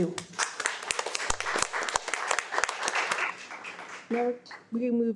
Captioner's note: audience applauding